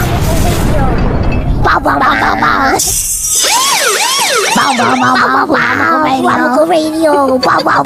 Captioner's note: explosion; Helldiver siren; glass shatering sound